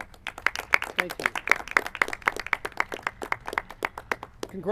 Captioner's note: clapping